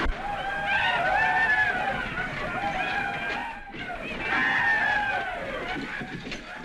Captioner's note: whooping